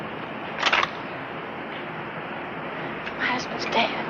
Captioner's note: gun clicking